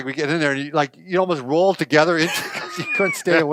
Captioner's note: laughs